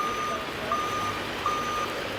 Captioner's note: crane beep